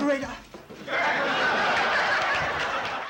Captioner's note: laughter